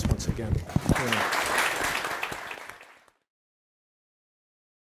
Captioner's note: audience applauding